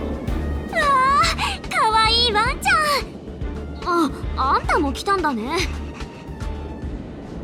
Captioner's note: gasp